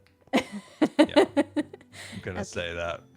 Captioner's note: laughs